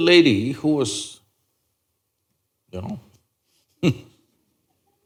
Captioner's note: laughs